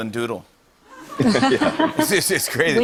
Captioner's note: laughter